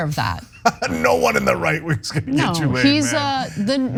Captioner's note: laugh